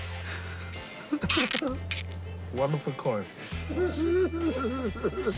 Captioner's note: cracks up